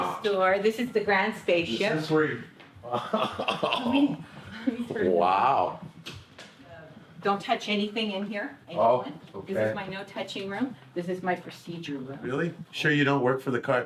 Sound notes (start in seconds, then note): 2.9 laughs